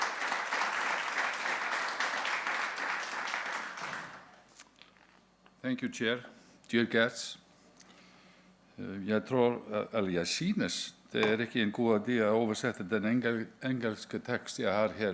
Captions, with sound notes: thank you chair dear guests (speaks a few words in Danish)